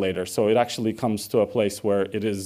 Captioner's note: none